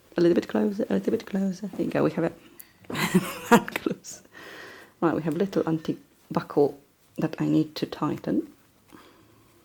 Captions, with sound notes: A little bit closer, a little bit closer. I think we have it. (chuckling) Close. Right, we have a little antique buckle that I need to tighten.